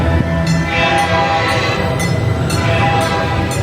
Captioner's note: train whistle blowing; bell ringing